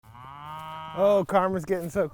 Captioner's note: cow moos